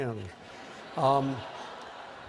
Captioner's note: laughter